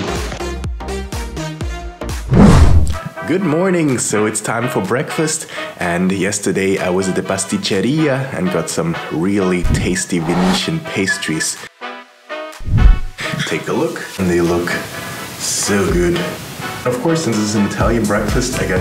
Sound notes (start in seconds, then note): 0.2 upbeat music; 6.9 speaks in foreign language